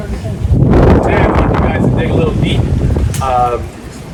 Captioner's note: wind whooshing